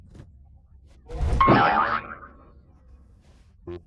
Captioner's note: boing!